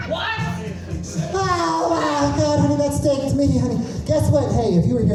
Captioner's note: weird laugh